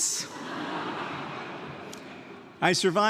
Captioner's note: audience laughs